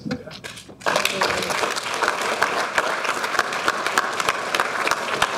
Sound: audience applauding

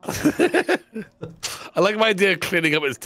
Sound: laughing

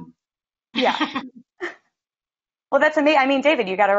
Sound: laughs

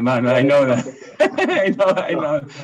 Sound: laugh

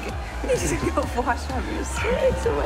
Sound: laughing

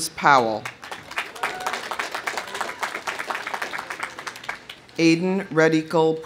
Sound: audience applauding; audience whooping

